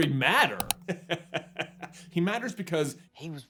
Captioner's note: chuckles